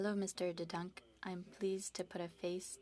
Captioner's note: speaking French